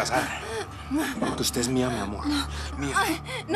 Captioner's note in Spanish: sollozos